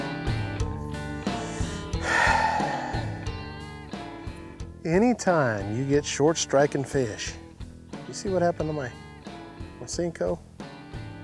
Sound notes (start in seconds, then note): 1.3 sighs